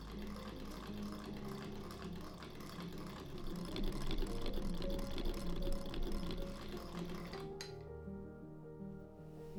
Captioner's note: more sewing machine ASMR